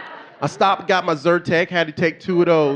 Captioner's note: audience laughing